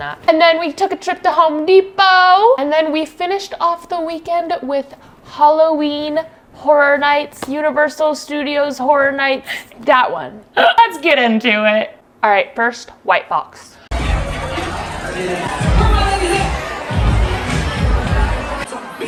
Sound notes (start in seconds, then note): 13.9 people chattering indistinctly; 16.6 upbeat music